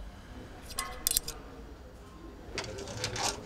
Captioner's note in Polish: brzdęk monety